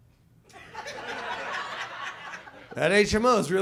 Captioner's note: audience laughs